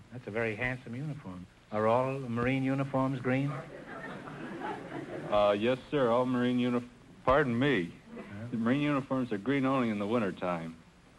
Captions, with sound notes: That's a very handsome uniform. Are all Marine uniforms green? (audience chuckling) - Yes sir, all Marine uniforms-- Pardon me...Marine uniforms are green only in the winter time.